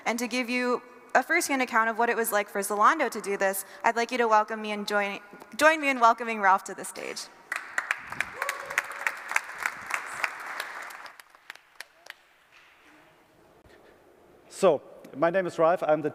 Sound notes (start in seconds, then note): 7.5 applause